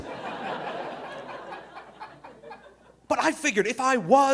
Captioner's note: audience laughing